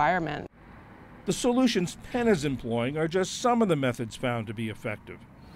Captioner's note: voice-over